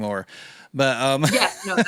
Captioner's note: laughs